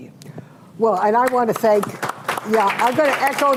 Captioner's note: applause